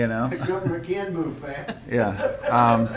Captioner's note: laughs